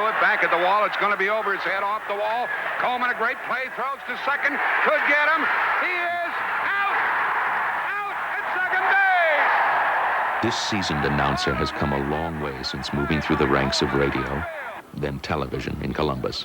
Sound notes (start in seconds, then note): 8.1 cheers